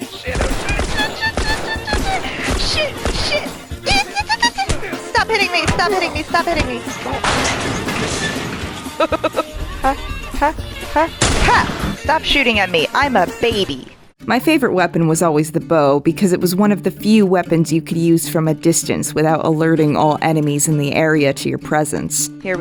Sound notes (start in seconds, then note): 3.5 me squeaking incoherently; 8.9 me giggling